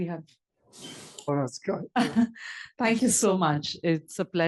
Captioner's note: laugh